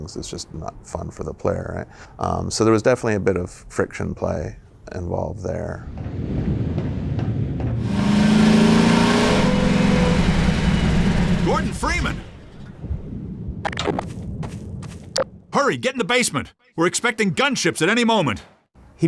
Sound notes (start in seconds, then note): 6.0 wind blowing; 8.0 vehicle revving aggressively